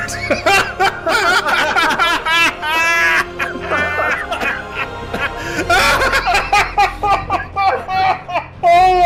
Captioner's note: uncontrolled laughter